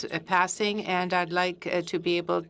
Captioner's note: speaking French